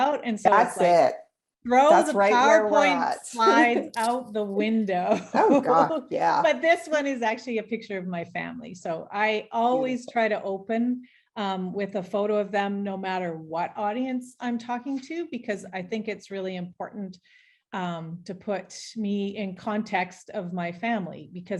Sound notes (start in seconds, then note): 3.3 laughing; 5.2 laughing